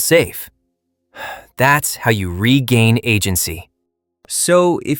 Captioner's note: sighs